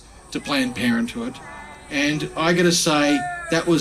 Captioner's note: booing